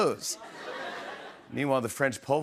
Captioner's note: laughter